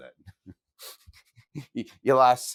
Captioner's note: laughs